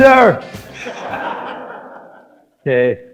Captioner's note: audience laughing